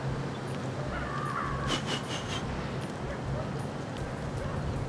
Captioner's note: blows quickly